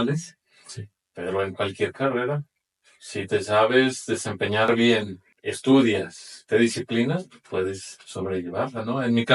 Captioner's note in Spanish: carraspeo